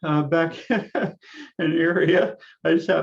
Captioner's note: laughs